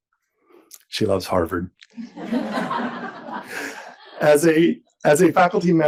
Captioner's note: audience laughs